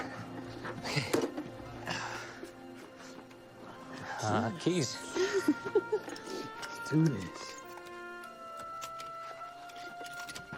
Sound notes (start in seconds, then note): 5.0 Tipper giggles